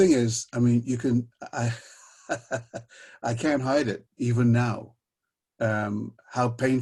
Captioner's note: laughs bitterly